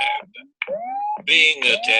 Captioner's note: electronic noises